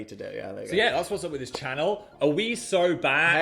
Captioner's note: palms clapping